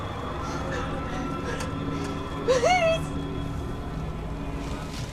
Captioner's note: sobs